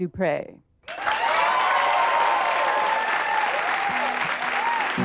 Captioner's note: audience hoots and applauds